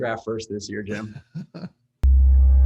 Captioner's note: laughs; sound effect music